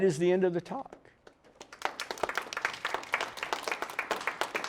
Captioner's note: applause